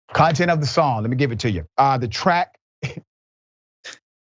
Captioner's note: laugh